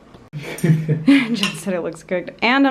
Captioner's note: laughter